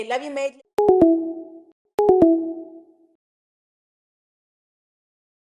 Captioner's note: disconnecting tones